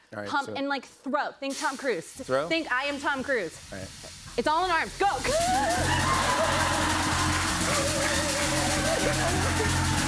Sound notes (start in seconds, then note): 5.2 cheers and applause